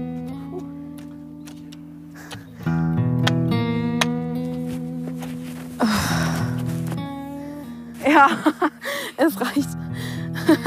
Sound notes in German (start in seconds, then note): 5.7 Seufzen; 8.0 lacht